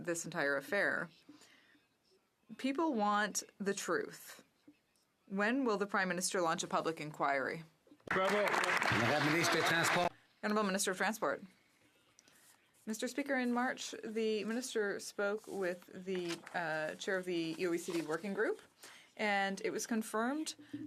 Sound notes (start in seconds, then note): 11.1 some Applause